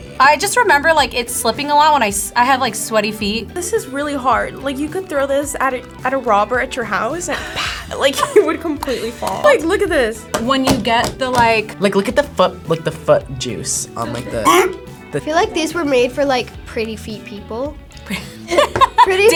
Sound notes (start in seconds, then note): 14.2 gags; 18.0 laughs